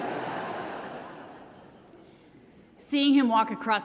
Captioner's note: laughter